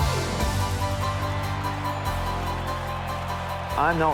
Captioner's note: crowd cheering